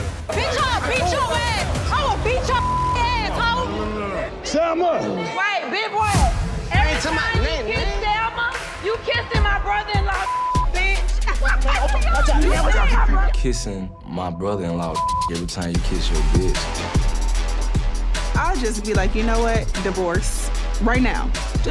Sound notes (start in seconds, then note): 2.4 beep; 10.2 beep; 14.3 beep